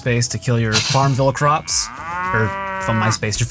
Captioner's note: cow moos